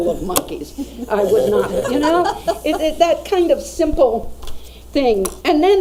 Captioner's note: laughing